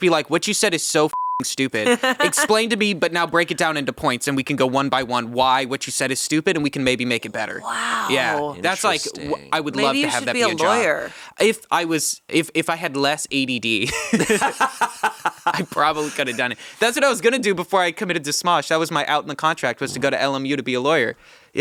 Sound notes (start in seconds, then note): 13.8 laughing